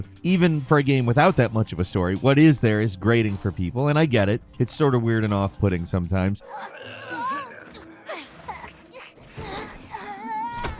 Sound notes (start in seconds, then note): 6.4 characters groaning